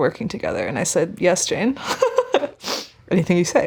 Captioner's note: chuckling